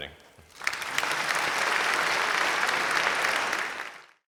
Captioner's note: audience applauding